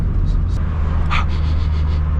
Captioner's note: sniffs